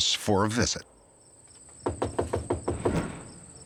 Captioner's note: door knocking